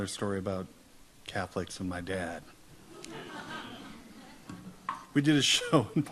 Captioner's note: audience laughs